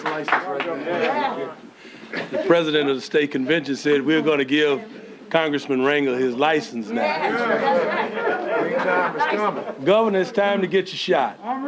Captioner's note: applause